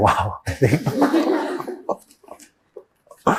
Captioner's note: laughter